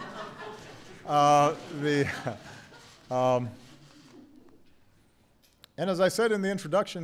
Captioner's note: laughter